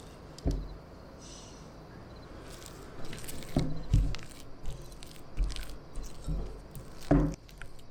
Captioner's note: breath in and out